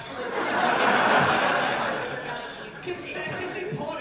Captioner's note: audience laughter